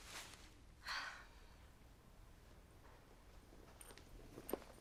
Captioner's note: Dottie sighs